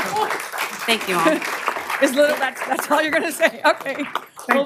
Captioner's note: applause